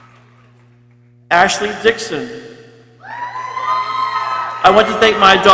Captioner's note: people cheering